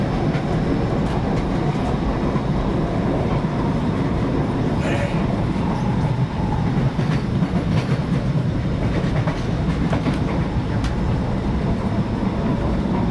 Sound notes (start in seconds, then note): 6.6 train clattering